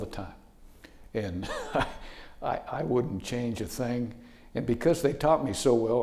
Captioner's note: laughing